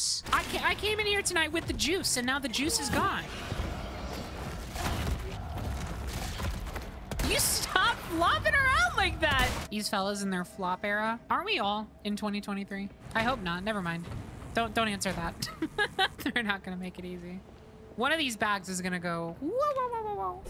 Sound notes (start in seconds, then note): 15.4 laughter